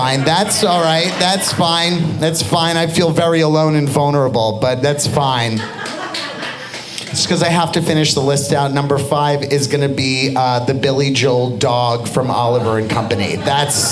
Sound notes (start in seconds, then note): 5.4 audience laughing